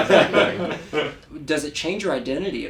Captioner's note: laugh